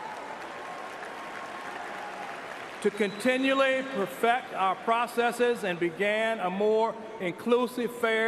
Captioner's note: cheers and applause